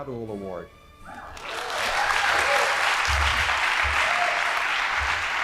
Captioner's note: audience applauding